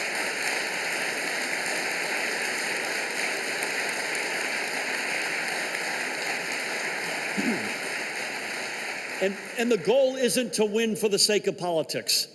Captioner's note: applause